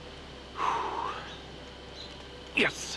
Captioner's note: exhales